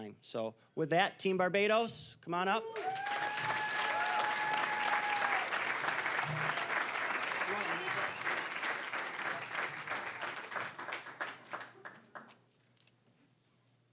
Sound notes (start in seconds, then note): 2.6 cheering, applause; 6.7 applause